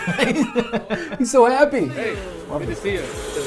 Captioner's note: both laugh